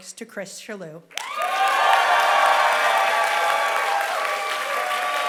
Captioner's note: applause